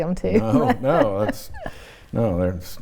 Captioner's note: chuckles